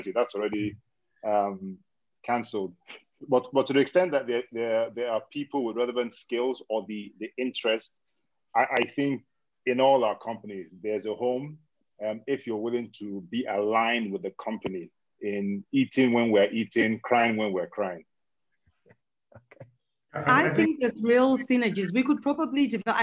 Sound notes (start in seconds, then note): 20.4 chuckles